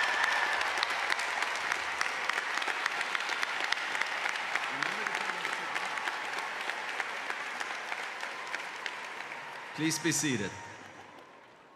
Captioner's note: cheers and applause